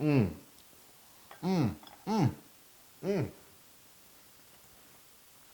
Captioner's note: laugh